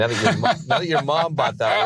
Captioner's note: laughs